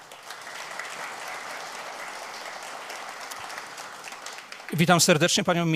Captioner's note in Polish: oklaski